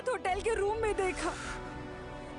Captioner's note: sniffling